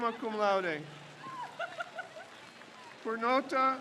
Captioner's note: crowd cheers